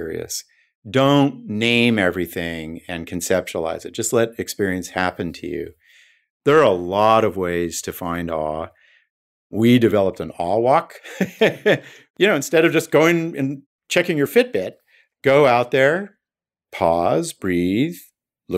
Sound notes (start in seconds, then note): 11.1 laughing